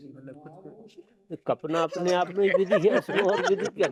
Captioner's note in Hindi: हंसी